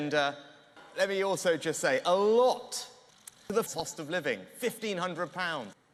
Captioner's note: click